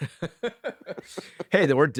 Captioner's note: laughs